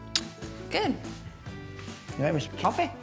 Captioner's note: smooch